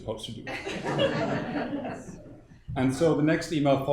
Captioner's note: audience laughing